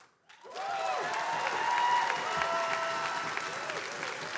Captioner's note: attendees applauding; attendees cheering and applauding